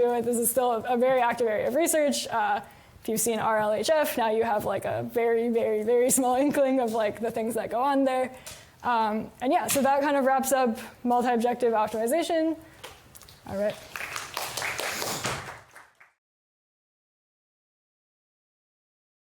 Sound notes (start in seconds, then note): 13.5 applause